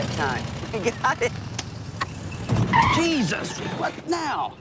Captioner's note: laughs